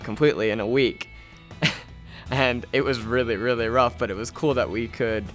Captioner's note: laughter